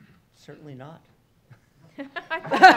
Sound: laughs

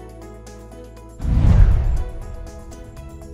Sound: swoosh

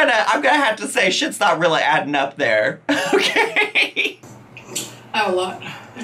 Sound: laughing

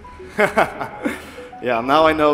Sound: laughing

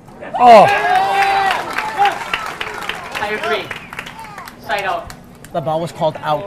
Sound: audience applauding and cheering

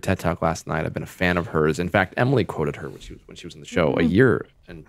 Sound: Justin laughs

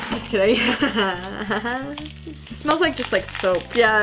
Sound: laughs jokingly

